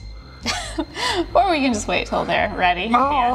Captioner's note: laughs